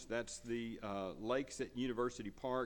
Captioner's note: none